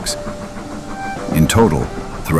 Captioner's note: train sound